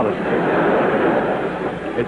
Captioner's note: laughter